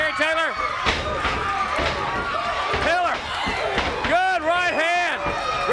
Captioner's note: crowd cheering